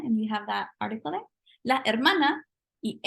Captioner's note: speaking spanish